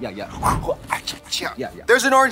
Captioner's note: Trixie makes throwing sound; Katya makes chewing sounds